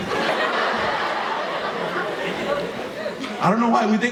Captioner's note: audience laughing